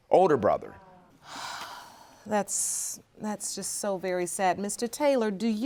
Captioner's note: sighs